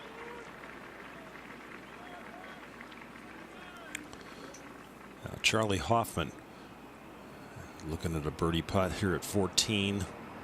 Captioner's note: applause